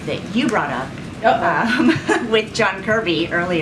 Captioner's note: laughs